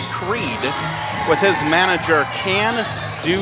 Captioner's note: crowd cheers